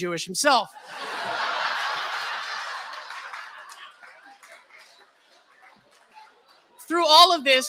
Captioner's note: laughter